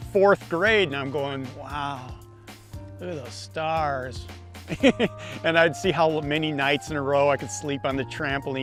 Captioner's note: laughs